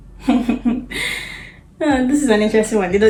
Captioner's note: laughs